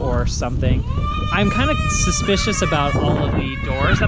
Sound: kids squeal

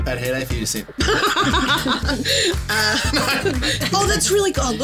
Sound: laughing

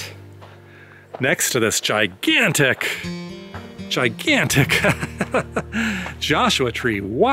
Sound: laughter

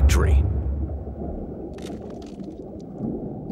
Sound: crunching

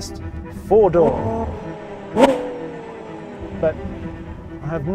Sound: engine revving

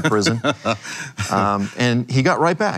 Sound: laughs

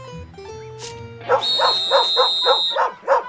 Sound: whistle blows, dog barking

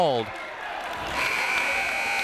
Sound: clapping

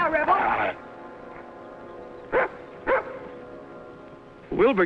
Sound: dog barks

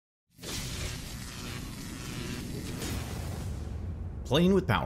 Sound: electricity Buzzing

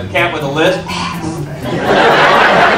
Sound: hisses with lisp; audience laughs

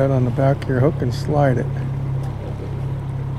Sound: chuckling

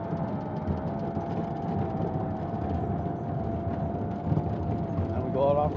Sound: plane engine roaring

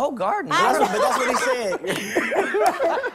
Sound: laughter

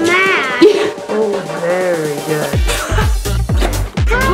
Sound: laughing

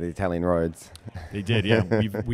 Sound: laughs

